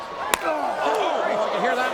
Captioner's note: audience groans; hand slaps